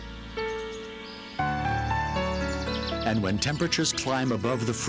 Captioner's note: birds chirping